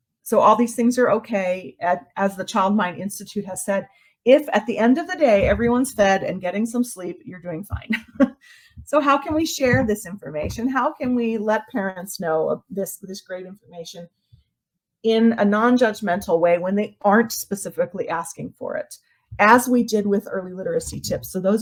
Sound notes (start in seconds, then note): 7.9 laughs